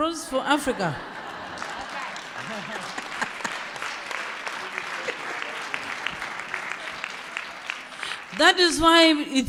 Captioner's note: laughter